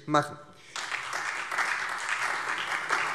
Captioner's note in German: Beifall SPD, Freie Demokraten und DIE LINKE